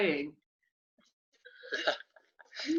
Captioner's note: laughs